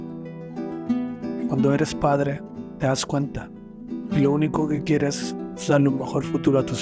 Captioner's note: narrator speaking in foreign language